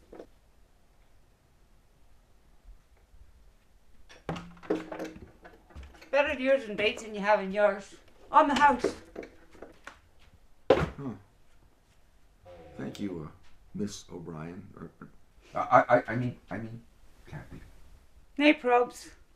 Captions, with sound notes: [loud door opening] Better baits than you have in yours. On the house. Thank you, uh... Ms. O'Brien. I... I mean... I mean... Cathy. Nay probs.